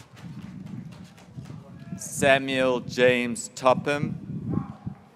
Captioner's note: graduates cheering